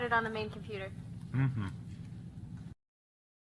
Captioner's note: hums in agreement